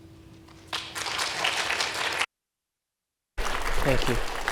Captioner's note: audience clapping